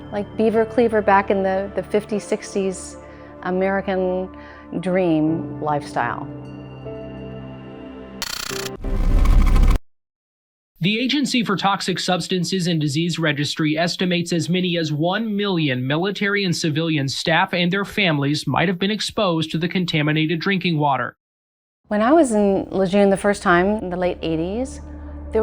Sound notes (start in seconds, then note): 8.2 static hisses